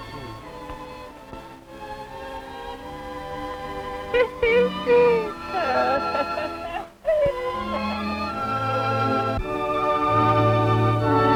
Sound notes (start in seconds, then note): 3.6 laughter; 8.3 sentimental music